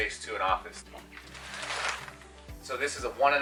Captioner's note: mattress comforter crinkles